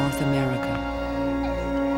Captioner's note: baby cries